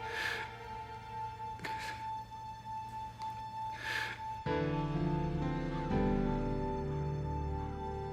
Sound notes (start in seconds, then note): 0.4 sobbing; 5.2 somber music